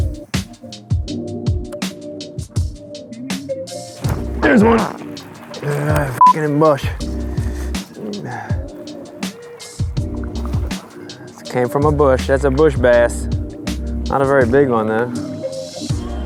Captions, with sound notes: (fishing reel whirring) Here's one. (beep) it in a bush. It came from a bush, that's a bush bass. Not a very big one though.